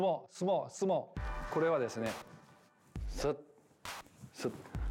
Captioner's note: speaking Japanese